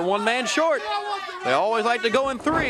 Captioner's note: crowd chatter